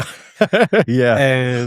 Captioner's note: laughter